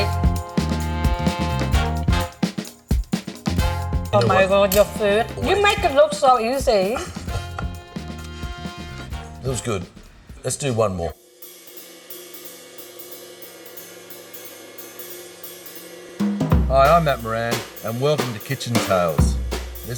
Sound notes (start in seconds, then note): 0.3 upbeat music; 7.4 laughing; 12.1 jazz music